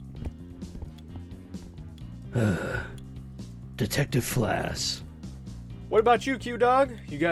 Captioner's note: sighs